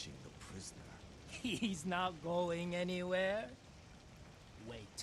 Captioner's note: laughing